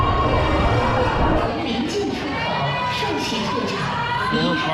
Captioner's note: announcement in Chinese